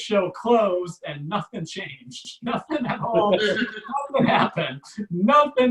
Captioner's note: audience Laughs